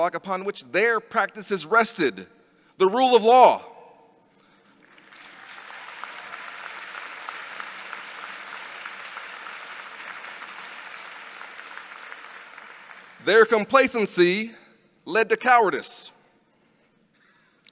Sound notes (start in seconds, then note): 4.7 audience applauding